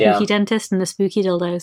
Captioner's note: laughs